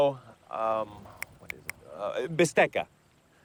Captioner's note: snaps fingers